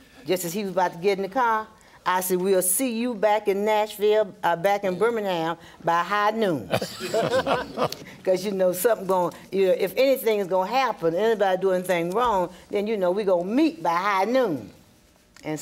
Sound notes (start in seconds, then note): 6.8 group laughing